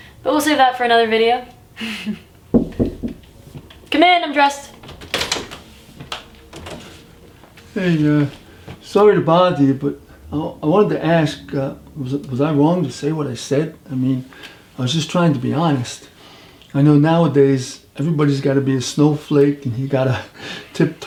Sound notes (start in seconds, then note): 2.1 laughs; 2.5 knock at door